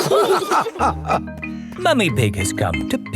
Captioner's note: all laughing